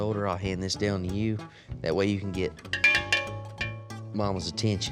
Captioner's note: ringing